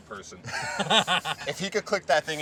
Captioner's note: all laughing